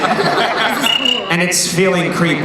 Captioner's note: cricket chirp